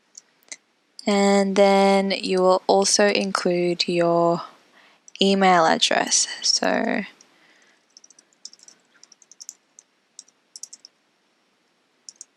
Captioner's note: typing